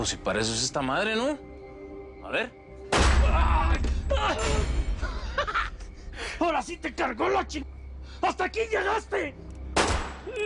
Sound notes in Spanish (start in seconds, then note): 2.9 Disparo; 9.7 Disparo; 10.2 Quejidos